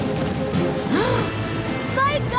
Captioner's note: Applejack gasps